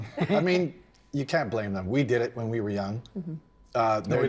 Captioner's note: chuckle